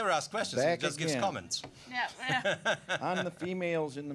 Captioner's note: laughing